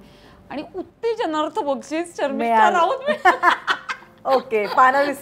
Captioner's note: Laughs